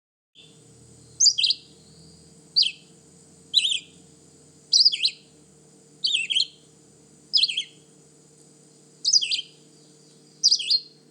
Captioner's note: red-eyed Vireo singing